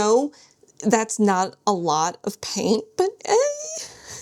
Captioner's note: squeals